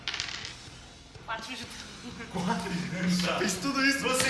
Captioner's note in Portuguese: risos